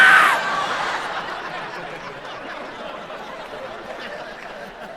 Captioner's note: shrieks